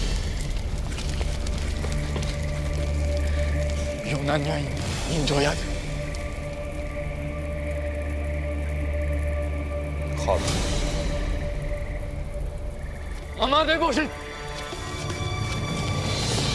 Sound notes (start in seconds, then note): 0.1 fire crackling; 1.2 gloomy orchestral music; 4.3 Persian speaking in foreign language; 6.7 gloomy orchestral music; 10.3 Xerxes speaking in foreign language; 13.5 Persian shouts in foreign language; 16.3 dramatic orchestral music